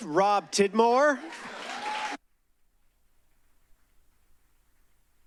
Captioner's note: applause